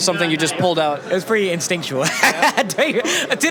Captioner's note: laughs